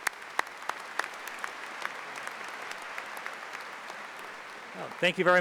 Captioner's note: applause